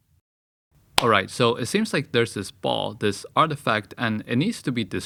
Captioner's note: clap